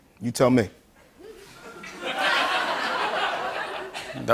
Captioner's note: laughter